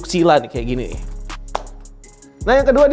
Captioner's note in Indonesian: menepuk